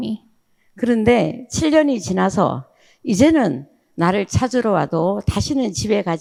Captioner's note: speaking in foreign language